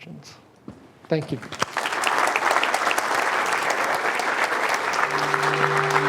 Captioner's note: applause